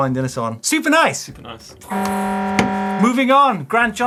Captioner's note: buzzer